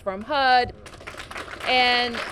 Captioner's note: applause